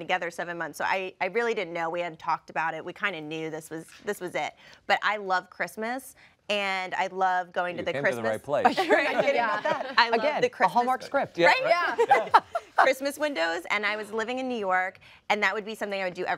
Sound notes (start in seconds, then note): 8.8 laughter